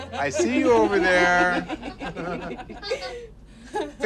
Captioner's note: laughter